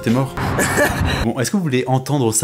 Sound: laugh

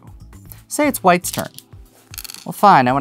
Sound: stones rattling

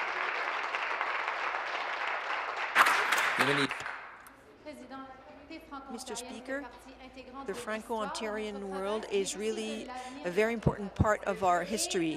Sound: applause

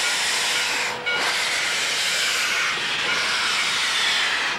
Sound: steam hissing

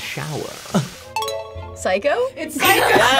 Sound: bell dings

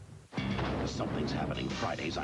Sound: car hits dumpster

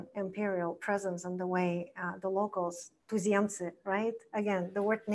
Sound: foreign language

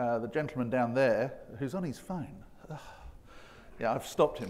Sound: scoffs

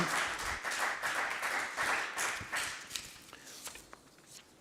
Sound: group applauds

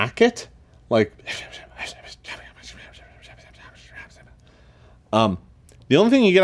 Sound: whispers

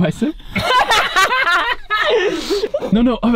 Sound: all laugh

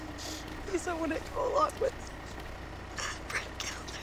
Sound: sobbing

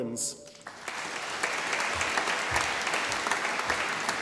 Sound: audience applauding

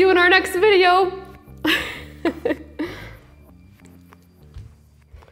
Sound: chuckles

